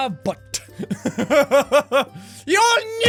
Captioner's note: laugh